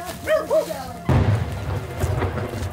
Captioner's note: dog barking; detonation